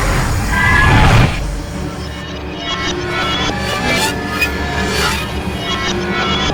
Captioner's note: Goocher screeches; ominous music